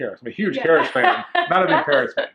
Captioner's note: laughs